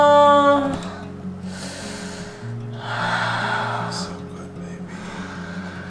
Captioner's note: breathing deeply